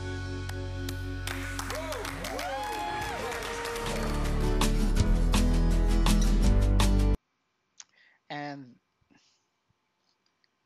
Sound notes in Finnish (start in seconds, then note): 3.1 Suosionosoitukset